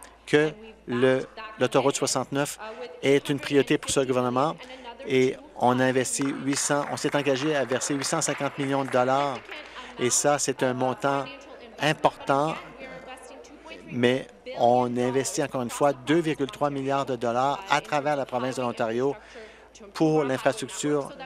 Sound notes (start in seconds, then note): 10.9 applause